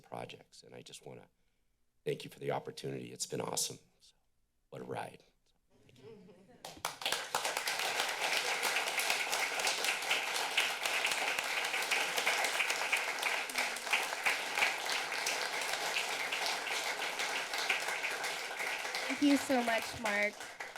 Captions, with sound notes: projects.And I just wanna thank you for the opportunity It's been awesome....what a ride. [laughs] [applause] Thank you so much, Mark.